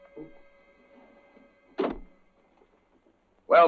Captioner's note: door closes